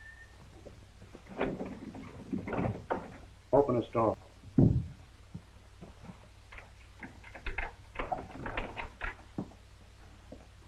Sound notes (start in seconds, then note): 0.9 doorknob rattles; 6.8 lock clicking